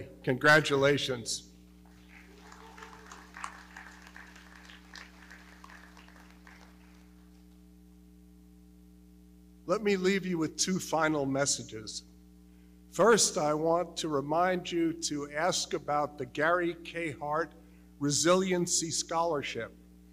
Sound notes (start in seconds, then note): 1.8 audience clapping